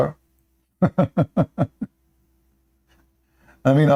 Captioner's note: Ketawa